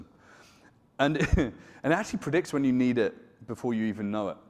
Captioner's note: chuckles